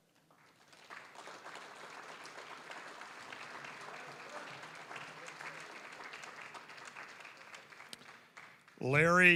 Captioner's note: applause